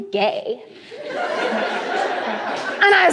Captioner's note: laughter